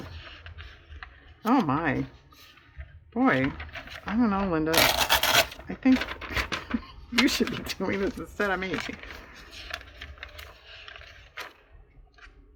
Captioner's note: laughs